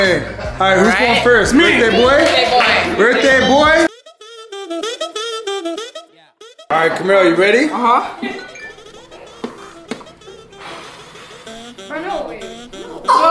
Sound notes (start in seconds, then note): 4.2 upbeat music; 8.2 phone chimes; 10.6 air swooshing